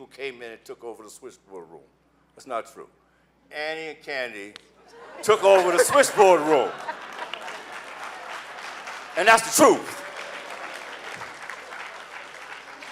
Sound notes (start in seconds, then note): 7.3 laughing; 8.6 clapping